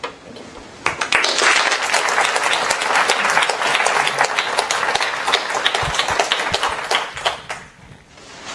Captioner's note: applause